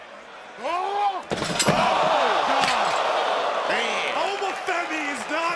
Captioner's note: audience cheering